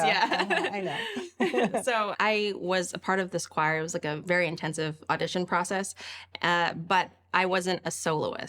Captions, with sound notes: - I was, yeah. (laughs) - Yeah, I know. (laughs) - So I was a part of this choir. It was like a very intensive audition process,